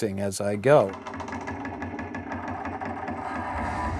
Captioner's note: metallic creaking